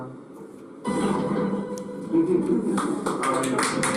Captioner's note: video chimes; audience chuckles; audience clapping